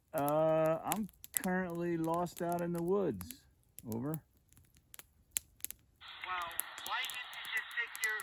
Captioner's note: radio voice